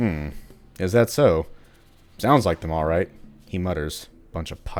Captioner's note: he mutters